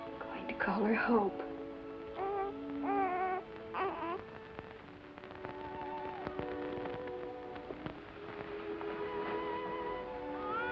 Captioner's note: baby cooing